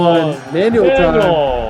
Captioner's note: bell ringing